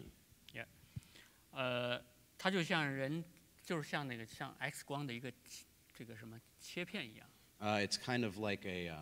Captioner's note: speaking in Chinese